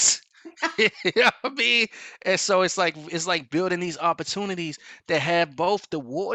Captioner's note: laughs